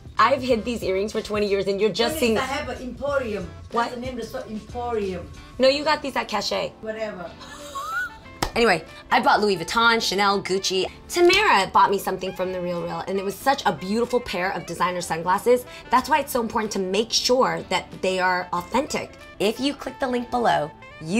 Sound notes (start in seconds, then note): 7.4 laughing